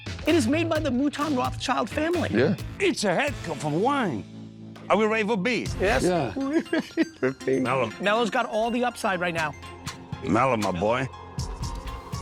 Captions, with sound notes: - It is made by the Mouton Rothschild family. - It's a heck of a wine. Are we ready for B? - Yes. [laughing] - Melo's got all the upside right now. - Melo, my boy.